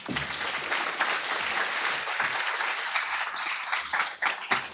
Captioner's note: applause